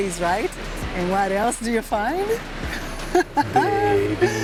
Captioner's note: laughs